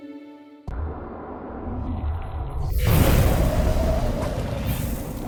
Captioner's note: cheerful music; energetic tones; water sloshing; wind whooshing